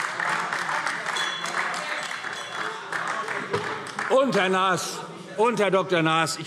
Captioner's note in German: Beifall - Unruhe - Glockenzeichen